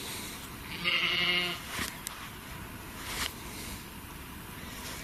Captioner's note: sheep bleating